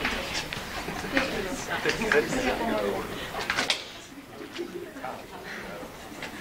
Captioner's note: audience chatters and laughs